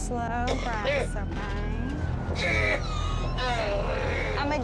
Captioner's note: hacking